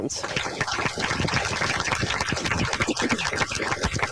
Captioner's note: applauding